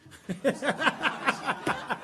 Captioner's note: laughter